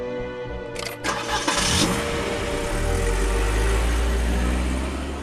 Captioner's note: car engine revs